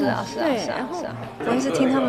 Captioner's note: chatting